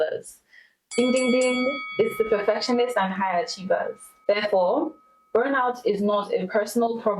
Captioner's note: ding ding ding